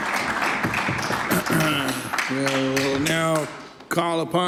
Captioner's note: some Applause